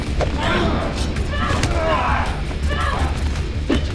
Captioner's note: thudding; both grunting